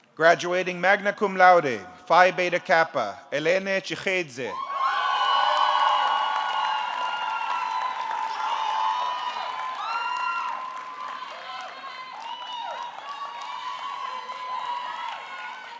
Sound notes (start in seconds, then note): 5.5 audience cheering; 5.5 audience clapping